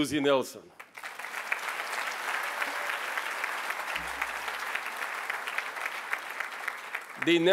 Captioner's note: applause